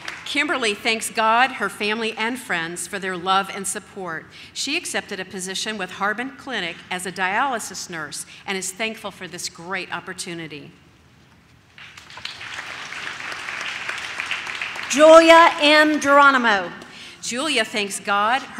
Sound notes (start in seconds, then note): 11.7 audience claps